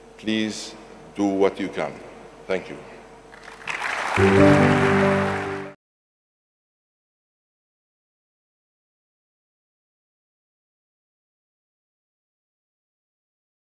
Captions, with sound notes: Please do what you can, thank you. (audience clapping hands) (gentle music)